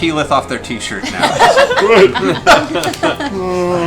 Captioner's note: laughter